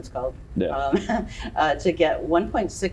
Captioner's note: laughs